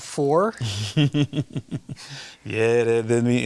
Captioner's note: laughs